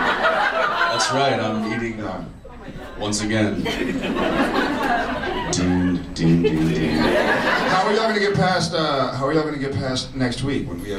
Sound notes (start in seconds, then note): 0.0 audience laughs; 3.4 audience laughs